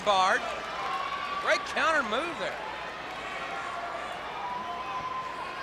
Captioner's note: crowd clamoring